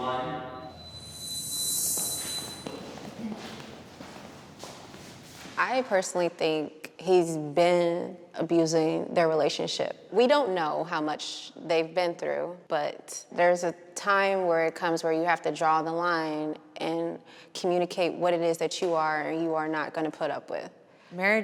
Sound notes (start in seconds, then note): 0.1 high-pitched squeal; 2.0 feet tapping